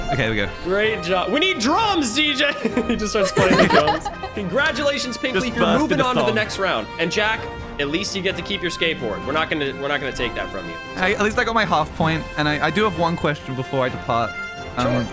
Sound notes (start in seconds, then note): 0.9 triumphant fanfare music; 2.6 laughs